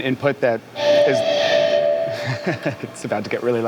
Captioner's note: PA screeches